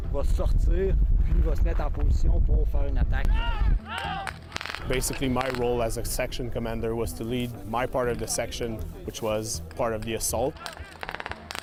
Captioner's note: speaking French